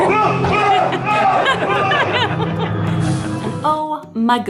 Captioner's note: scary growling and screaming